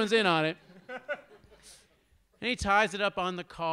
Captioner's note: audience laughs